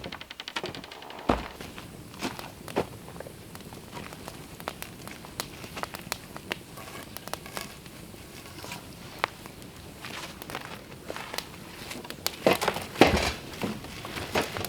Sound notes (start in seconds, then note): 4.0 fire crackling